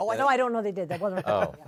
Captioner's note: laughter